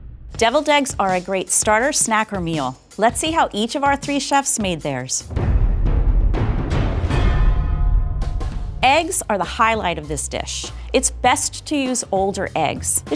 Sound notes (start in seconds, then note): 5.2 drum thumps; 7.4 metal clangs